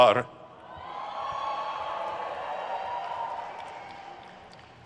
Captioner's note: crowd cheers